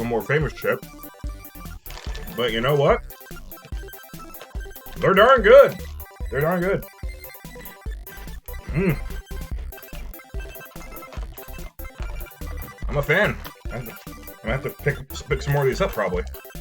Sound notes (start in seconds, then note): 0.0 nom nom; 4.7 more nomming